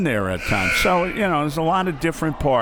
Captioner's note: buzzer